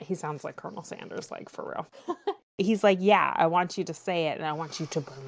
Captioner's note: laughs